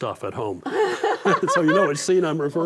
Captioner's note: both laugh